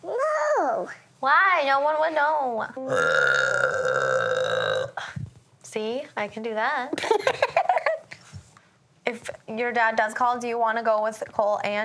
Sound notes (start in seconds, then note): 2.8 belching; 7.0 laughing